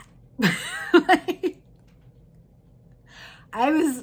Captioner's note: chuckles